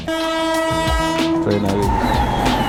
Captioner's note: train honk